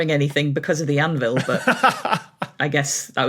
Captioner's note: laughs heartily